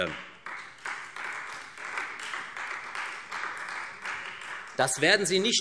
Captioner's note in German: Beifall Freie Demokraten